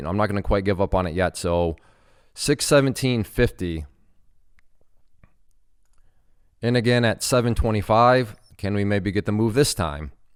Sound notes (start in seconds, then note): none